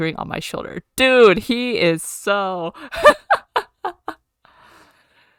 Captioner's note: laughs